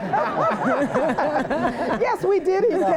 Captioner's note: laughter